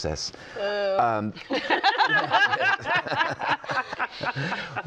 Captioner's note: laughter